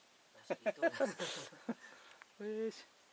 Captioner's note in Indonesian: tertawa